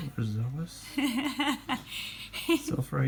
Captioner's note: nervous laughter